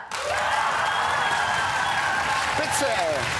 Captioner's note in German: lauter Jubel